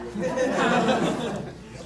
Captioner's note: laughs